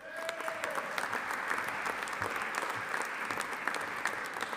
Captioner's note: audience applauding